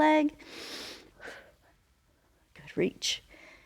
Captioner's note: inhales and exhales